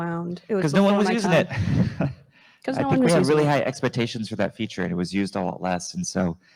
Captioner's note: chuckles